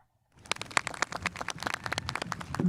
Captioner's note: spectators applauding